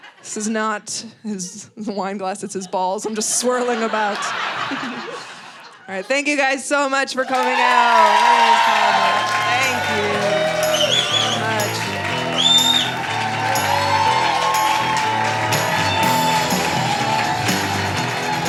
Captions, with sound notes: This is not his wine glass, it's his balls I'm just swirling about. (audience laughing) All right, thank you guys so much for coming out. (audience cheering) Thank you. (audience cheering) (upbeat music)